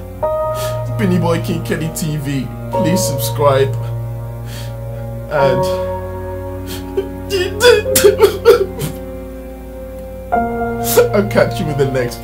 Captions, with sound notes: If you like KingKennyTV, Please subscribe *cries* And i'll catch you in the next video.